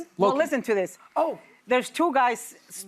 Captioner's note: none